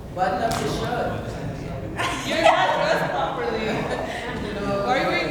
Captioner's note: crowd talks over each other